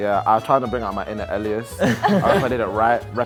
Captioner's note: group laughing